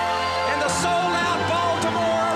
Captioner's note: crowd cheering